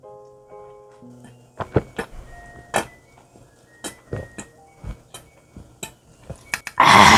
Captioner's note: the sound of the laundry finished